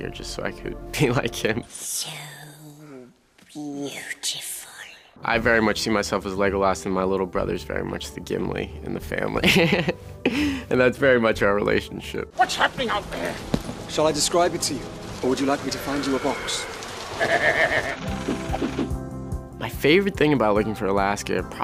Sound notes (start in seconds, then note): 9.5 Charlie laughs; 17.0 Gimli laughs